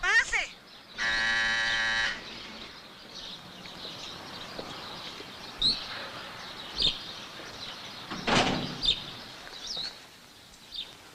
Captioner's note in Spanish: Timbre suena